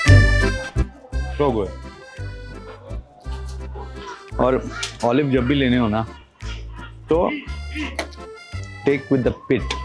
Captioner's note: laughs